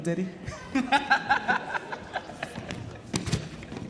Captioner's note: laughs